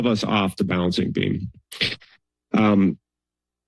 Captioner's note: pause